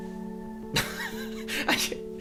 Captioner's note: laughing disgustedly